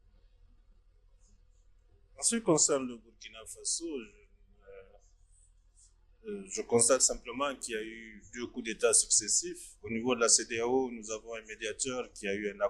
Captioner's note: in French